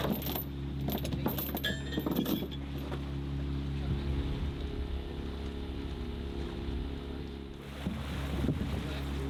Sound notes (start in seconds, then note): 0.7 anchor chain noise